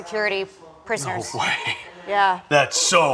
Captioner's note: laughing